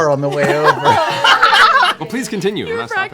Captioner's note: laughter